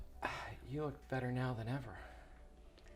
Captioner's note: Wes sighs